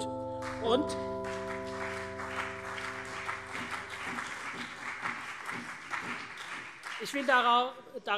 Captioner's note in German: Beifall CDU und BÜNDNIS 90/DIE GRÜNEN